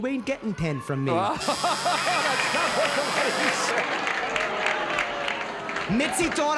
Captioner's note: buzzer